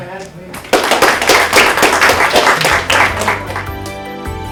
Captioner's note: applause